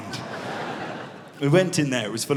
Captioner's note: audience laughs